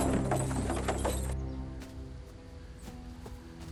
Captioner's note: suspenseful music playing; birds chirping